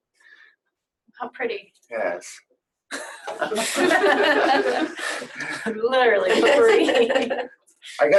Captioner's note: laughs